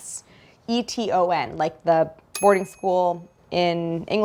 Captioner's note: picture dings